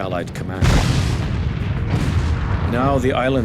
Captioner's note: bomb explodes